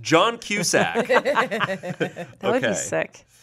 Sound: everyone laughs

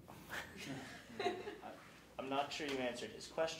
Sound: laughing

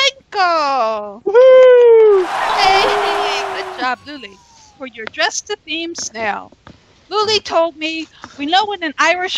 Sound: cheers and Applause

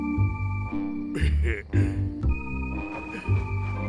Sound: snickers

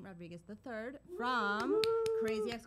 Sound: cheering

